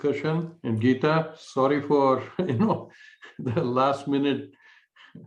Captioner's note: laughter